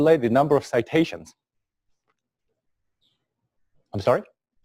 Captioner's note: pause